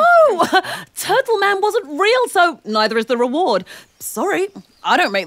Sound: laughs

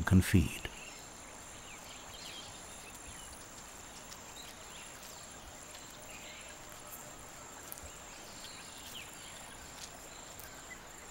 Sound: birds chirping

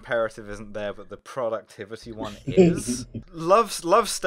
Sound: laughter

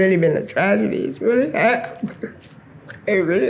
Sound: voice breaking

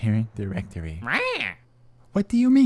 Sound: angrily squawking

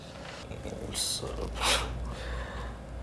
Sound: laughs

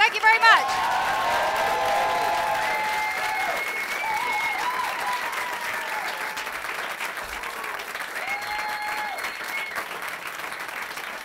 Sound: cheers & applause

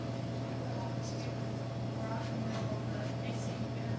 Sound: faintly speaking

